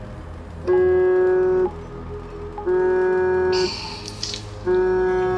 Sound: phone vibrates

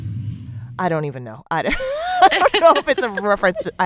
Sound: laughter

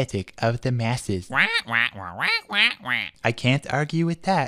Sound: explanatory squawking

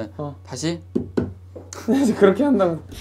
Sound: tap tap

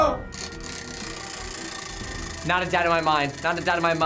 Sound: wheel rattling

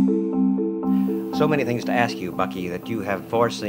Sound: voiceover

